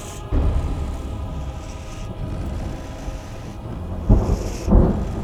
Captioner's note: thunder rumbling